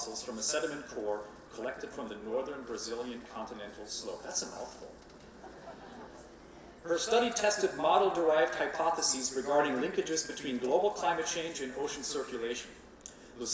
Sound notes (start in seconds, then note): 5.4 laughing